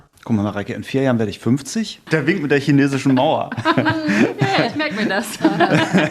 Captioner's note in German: gelächter